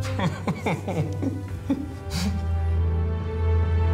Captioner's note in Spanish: risas